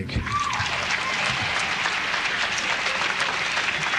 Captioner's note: audience applauds